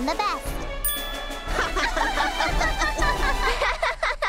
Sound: tink!; both laugh; both laughing

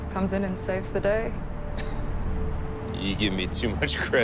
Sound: chuckles

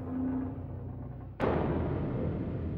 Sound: distant bang

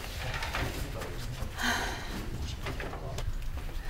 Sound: sigh

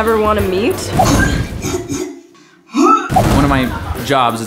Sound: woman throwing up

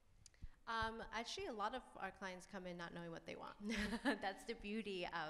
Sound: laughs

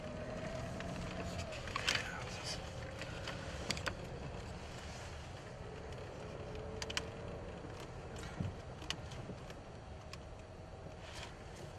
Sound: hushed voices in video of the trip, wind blowing

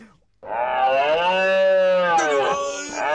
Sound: roaring

